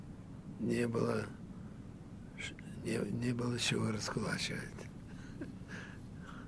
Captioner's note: laughing